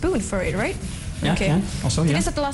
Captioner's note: non-english speech